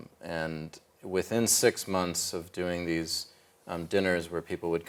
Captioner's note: none